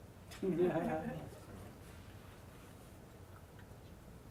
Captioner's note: audience chuckles